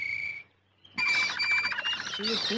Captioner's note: whistle; birds singing